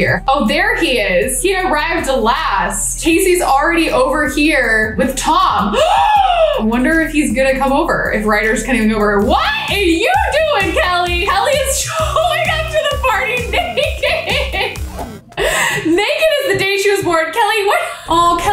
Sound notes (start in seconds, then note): 5.7 gasps; 15.3 laughs